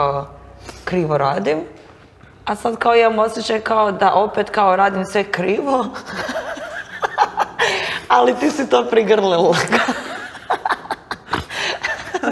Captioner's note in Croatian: smijeh